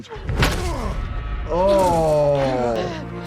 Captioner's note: bat thudding